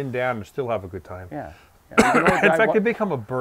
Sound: coughs

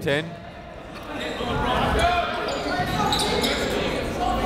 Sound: chatter

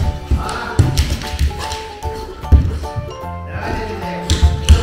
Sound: laughs

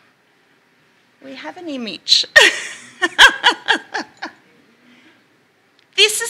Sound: laughs

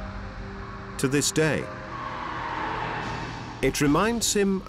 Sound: echoing screech

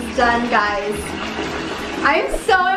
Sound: running water

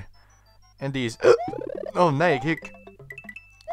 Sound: hic

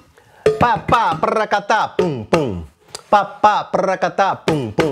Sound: vocalizes rhythm

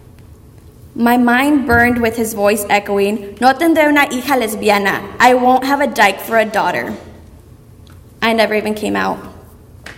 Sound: speaking Spanish

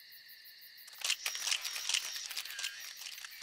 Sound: camera clicks

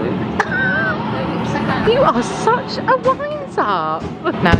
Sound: laughs

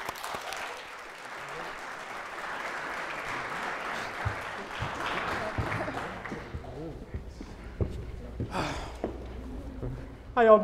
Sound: applause

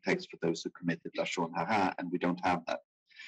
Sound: speaking in foreign language

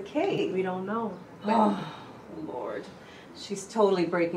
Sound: scoffs

